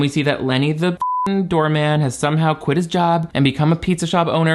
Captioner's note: beep